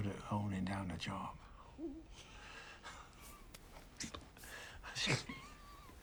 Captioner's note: snickering